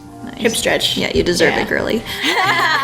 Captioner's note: laughs